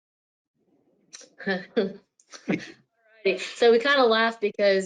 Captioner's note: laughs